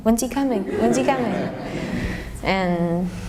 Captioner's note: laughter